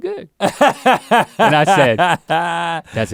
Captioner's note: Rhett laughs